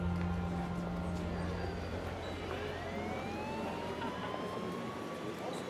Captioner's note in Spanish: Sirena de ambulancia